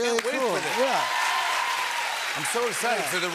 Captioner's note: cheers and applause